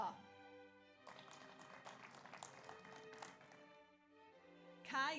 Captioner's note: audience applauds